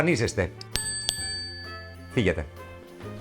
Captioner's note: bell ring twice